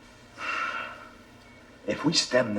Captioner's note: Trapper sighs